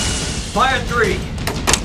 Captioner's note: torpedo blasts